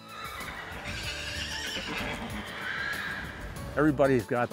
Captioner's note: horses whinnying